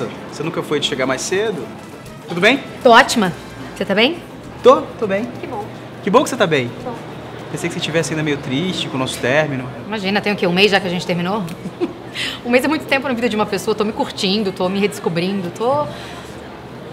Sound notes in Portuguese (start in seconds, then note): 11.5 risos